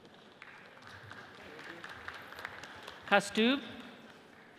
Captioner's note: audience applauds